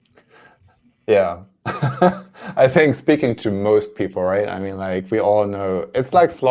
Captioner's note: laughs